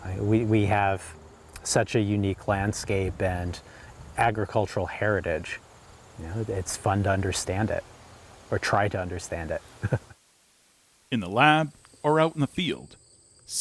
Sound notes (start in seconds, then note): 9.7 chuckles